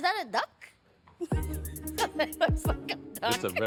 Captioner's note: laughing